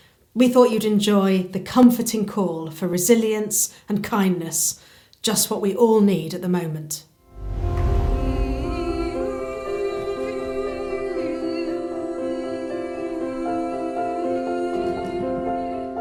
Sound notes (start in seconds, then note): 7.3 light music; 10.1 humming